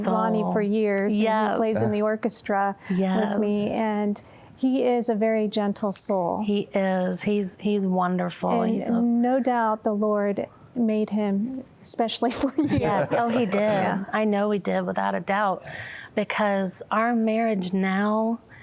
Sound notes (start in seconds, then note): 12.4 laughing